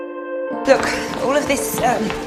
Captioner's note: voiceover